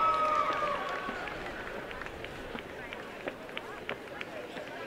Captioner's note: applause